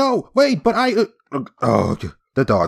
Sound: groans

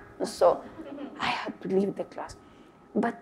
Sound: audience laugh

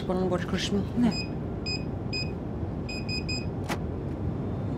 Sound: device beeping

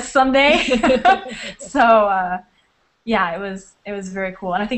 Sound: laughter

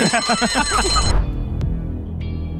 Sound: laughing; bell ringing; dramatic music

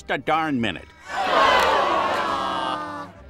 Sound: sighing

